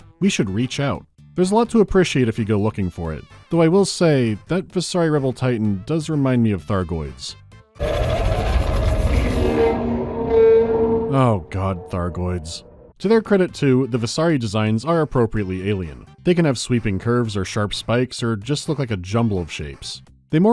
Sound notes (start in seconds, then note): 7.8 metallic Thargoid screeching